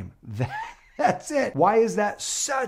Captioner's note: laughs